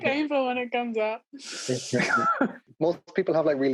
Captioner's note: laughing